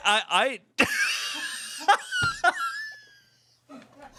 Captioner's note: everyone laughs